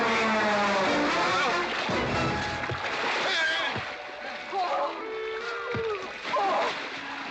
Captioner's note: splashing around